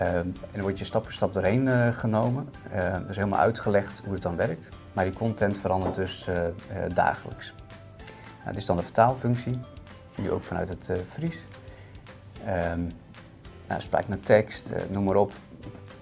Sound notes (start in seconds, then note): 10.9 dutch dialect